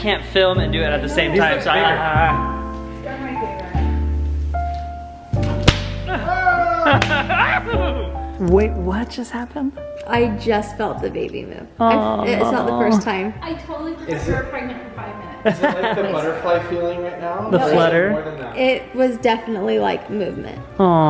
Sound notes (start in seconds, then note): 1.8 thoughtful music; 5.4 pop; 6.0 laughing